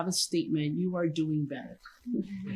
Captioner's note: chuckling